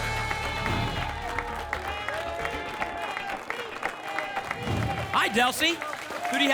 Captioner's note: applause and cheering